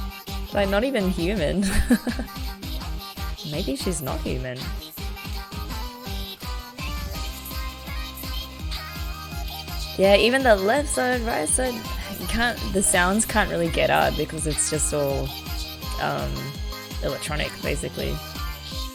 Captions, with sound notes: Like, not even human. [laughs] Maybe she's not human. Yeah even the 'left side, right side' - you can't - the sounds can't really get out because it's just all electronic, basically.